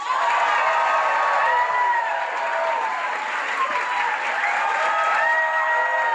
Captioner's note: audience cheering and applauding